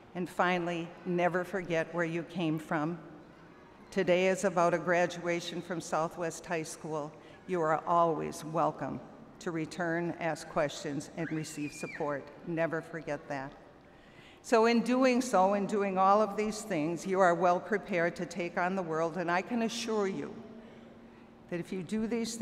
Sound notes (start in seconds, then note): none